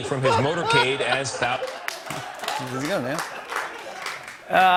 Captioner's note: laughter